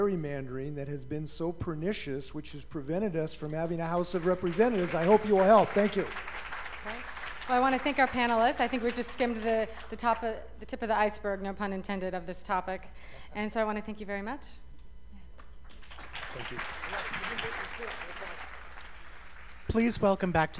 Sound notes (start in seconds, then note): 18.9 applause